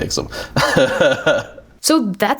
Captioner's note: chuckles